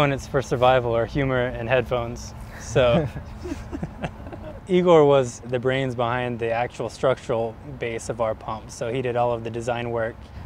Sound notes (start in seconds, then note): 2.6 laughter